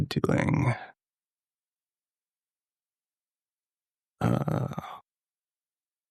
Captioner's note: silence